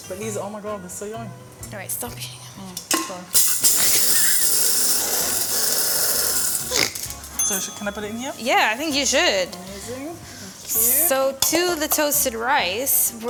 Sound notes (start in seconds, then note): 3.4 processor blending; 6.9 snorts; 7.3 bell dinging